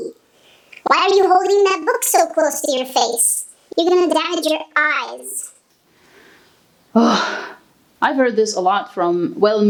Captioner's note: sigh